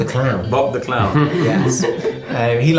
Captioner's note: laughing